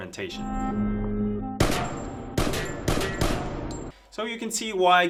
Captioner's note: music and gunshots from a movie